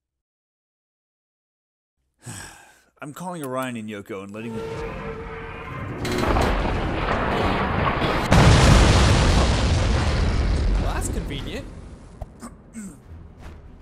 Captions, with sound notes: *sigh* I'm calling Orion and Yoko and letting th- Well, that's convenient. Hu...ummm...